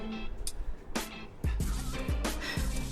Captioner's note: sighs